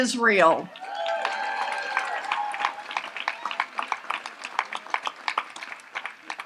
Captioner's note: audience applauds and cheers